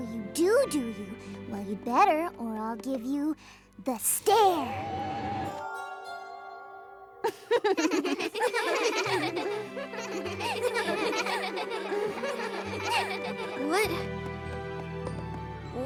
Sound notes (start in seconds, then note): 5.4 warbling; 7.2 laughter; 7.2 laughs